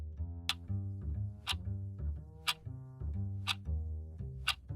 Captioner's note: clock ticking